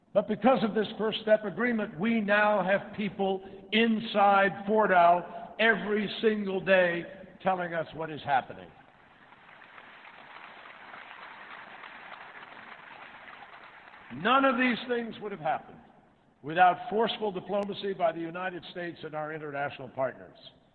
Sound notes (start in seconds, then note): 12.4 applause